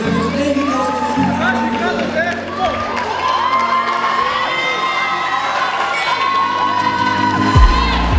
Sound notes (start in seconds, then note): 4.0 cheers; 6.0 bell